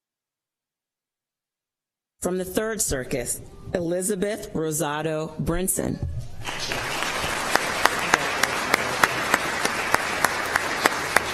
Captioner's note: applause